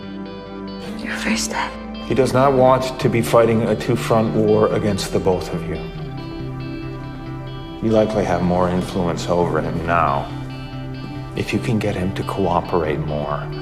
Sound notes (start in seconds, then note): 2.4 voiceover